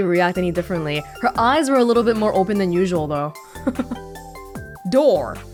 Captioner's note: chuckles